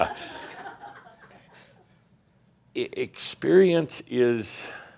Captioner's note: someone says “Five, at least!” and some chuckles; Adamus chuckles